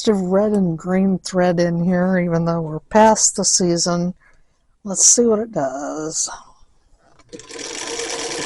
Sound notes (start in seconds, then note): 7.3 sewing machine runs